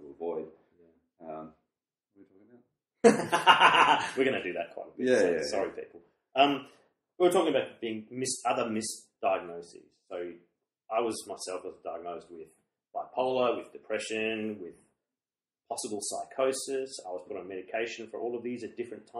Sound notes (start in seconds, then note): 3.0 laughs a lot